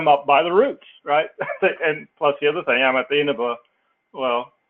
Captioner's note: laugh